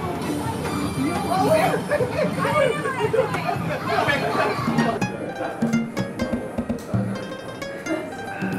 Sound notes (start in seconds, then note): 0.6 arcade Noise